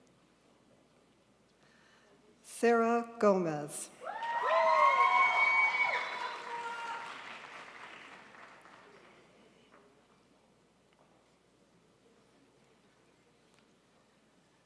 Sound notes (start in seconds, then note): 4.0 crowd applauds